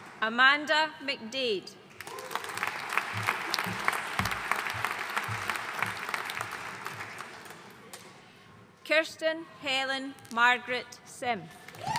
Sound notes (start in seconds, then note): 2.0 audience cheering and applauding